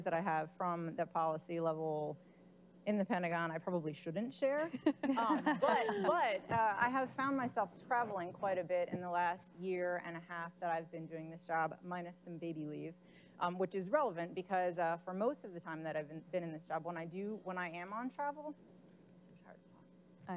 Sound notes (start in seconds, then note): 4.8 laughing